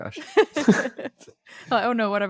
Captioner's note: laughs